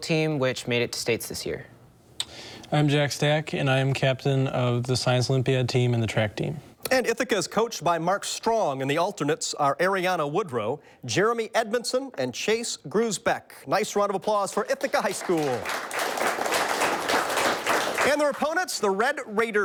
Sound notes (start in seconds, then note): 14.3 audience applauds